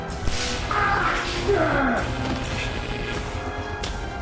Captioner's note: gun zaps; man groaning; tense instrumental music